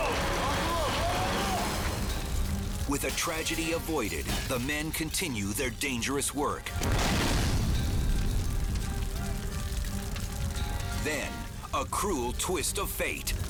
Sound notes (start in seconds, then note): 6.6 fire exploding